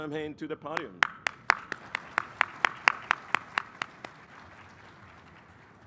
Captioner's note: applause